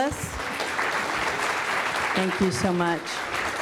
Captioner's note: audience applauds